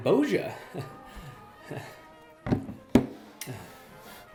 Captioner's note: chuckles